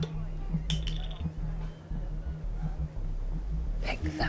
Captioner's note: cap thuds